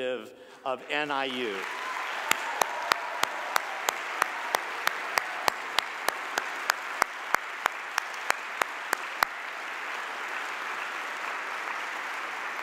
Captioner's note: cheers and applause